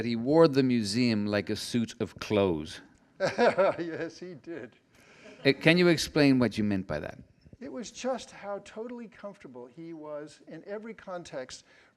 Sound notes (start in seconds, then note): 3.2 laughs